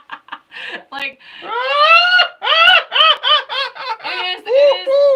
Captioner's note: laughing; imitating bird